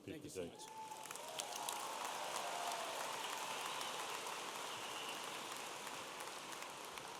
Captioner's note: audience applauding and cheering